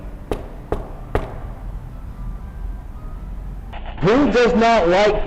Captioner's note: rhythmic knocking